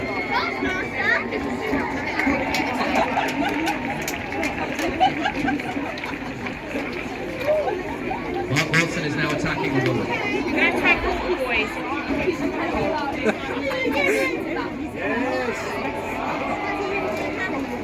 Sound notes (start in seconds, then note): 13.1 laughter from myself